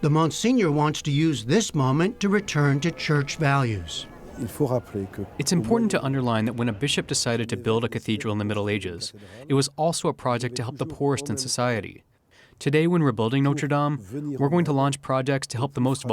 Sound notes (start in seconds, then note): 4.6 through translator